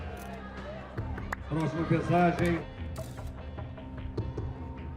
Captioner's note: announcer speaking Portuguese